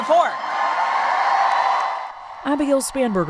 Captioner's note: cheering